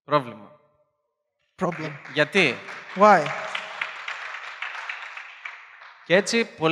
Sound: applause

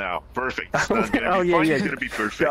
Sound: laughs

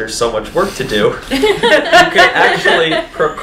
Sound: all laughing

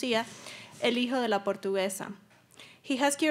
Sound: speaking Spanish

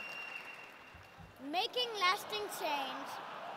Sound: laughter

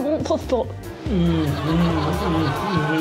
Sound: muttering

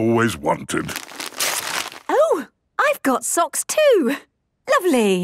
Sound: tearing

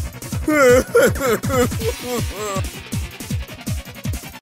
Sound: crying

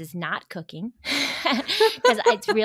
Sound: laugh

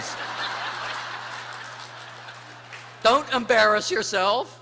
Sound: laughter

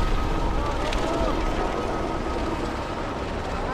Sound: drone blades whirring

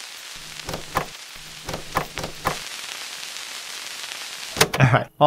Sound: less-silly fast-forwarded sounds

